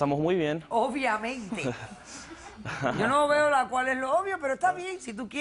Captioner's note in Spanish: Risas